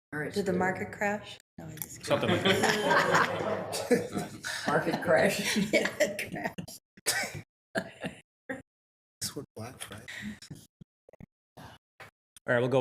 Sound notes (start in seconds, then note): 2.0 people laughing